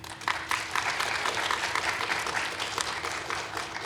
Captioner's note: audience clapping